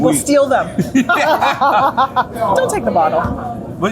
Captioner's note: both laughing